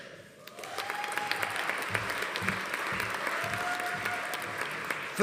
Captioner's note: audience applauding; audience cheering